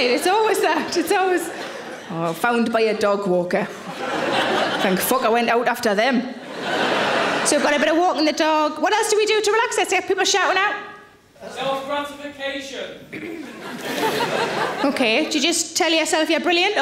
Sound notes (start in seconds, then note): 13.2 audience laughing